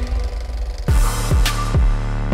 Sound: reel clicking; upbeat music

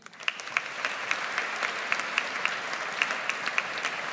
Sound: audience applauds

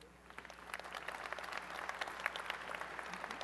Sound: applause

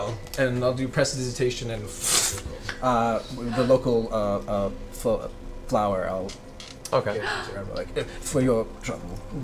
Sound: pfft

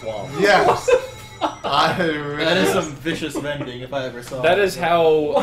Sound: laughing

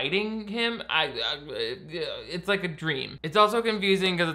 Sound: stuttering

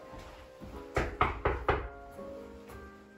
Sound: knock, knock, knock

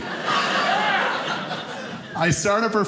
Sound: audience laughing

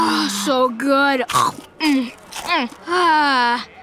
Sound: chewing

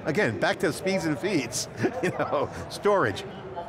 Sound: chuckling

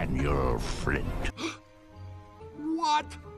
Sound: gasp

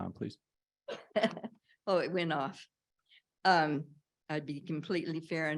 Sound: chuckles

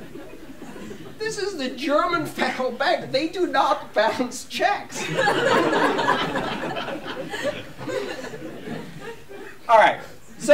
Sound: laughter

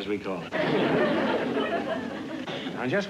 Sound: laughter

